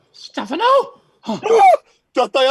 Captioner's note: gasp